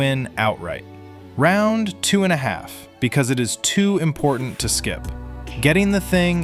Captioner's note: thoughtful